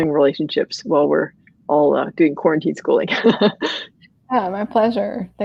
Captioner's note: laughs